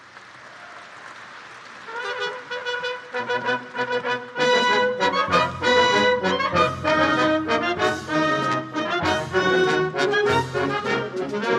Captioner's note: applause